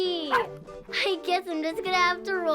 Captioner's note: dog barking